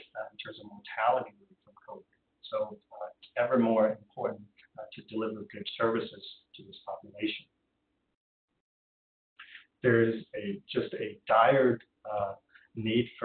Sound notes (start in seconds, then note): 2.6 audio drop